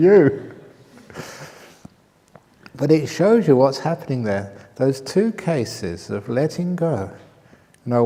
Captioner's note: laughter